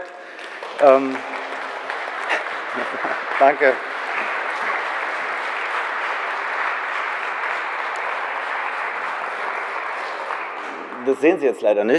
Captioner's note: general applause